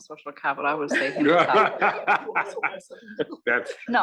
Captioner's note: laugh